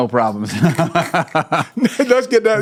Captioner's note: both laughing